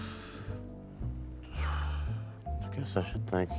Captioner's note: exhales